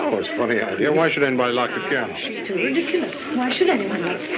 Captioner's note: chattering